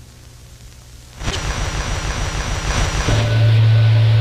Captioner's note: static hissing; eerie ambient music